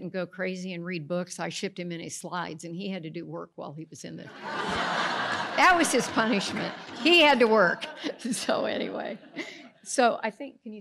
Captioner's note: audience laughs